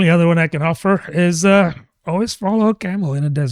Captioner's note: uh